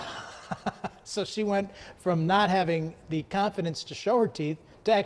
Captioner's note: laughs